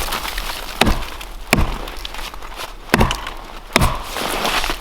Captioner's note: hatchet thudding